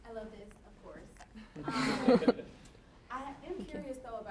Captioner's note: laughter